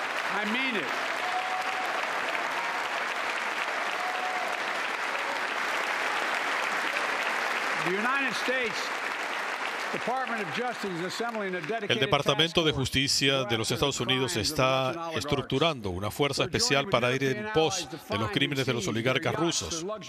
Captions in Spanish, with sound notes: CORRUPTOS DE RUSIA QUE SACARON MILES DE MILLONES DE DóLARES DE ESTE LUGAR NUNCA MáS. ESTE LUGAR NUNCA MáS. >> [APLAUSOS] EL DEPARTAMENTO DE JUSTICIA DE